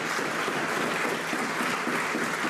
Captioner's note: some Applause